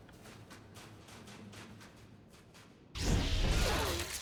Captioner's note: footsteps